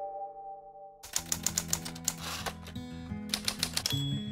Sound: typewriter clicks

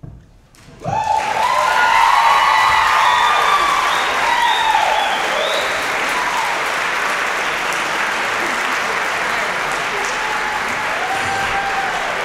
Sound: applause, cheering

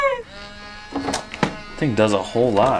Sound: small motor churning

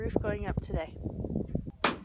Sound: hammering

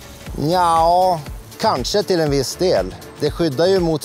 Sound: speaks in Swedish

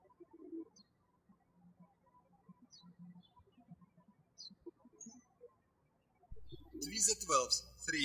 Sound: birds chirping

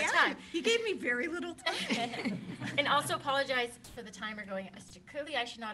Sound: laughter

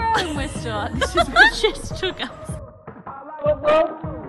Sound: laughs

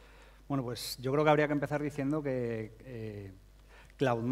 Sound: speaking spanish

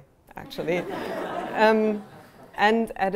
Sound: laughter

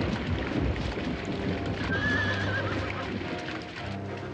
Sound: horse whinnying; dramatic music

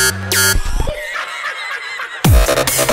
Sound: cackles

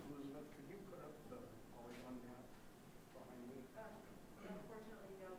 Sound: man murmuring softly

